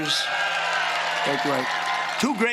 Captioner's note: booing